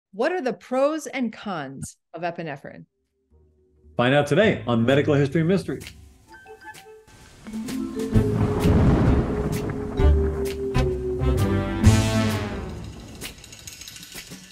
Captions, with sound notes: - What are the pros and cons of epinephrine? - Find out today on Medical History Mysteries. (soft music) (thunder crashing) (mysterious music)